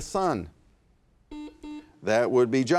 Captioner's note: buzzer buzzing